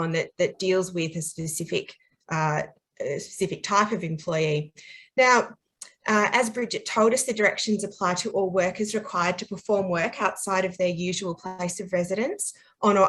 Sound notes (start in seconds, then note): none